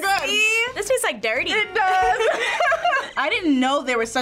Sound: laughs

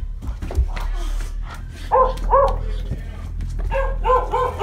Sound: dog barking

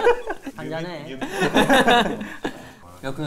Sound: laughing

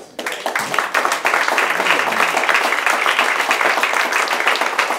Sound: applause

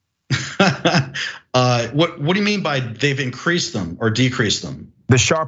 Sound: laugh

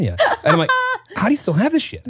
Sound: laughs

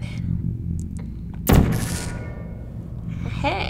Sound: whispers; gun zaps

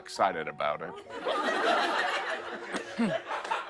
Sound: laughter

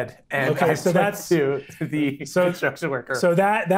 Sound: speaking faintly

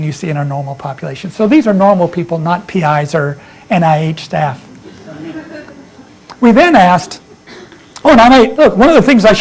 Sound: laughter

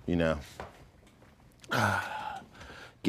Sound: sighing

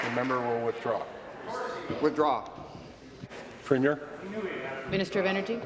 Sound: applause

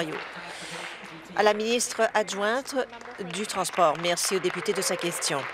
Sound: applause

